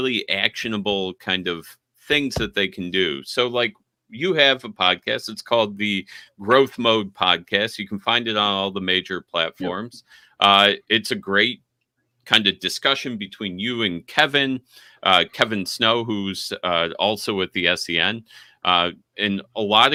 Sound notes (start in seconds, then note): none